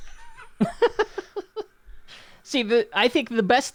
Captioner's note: laugh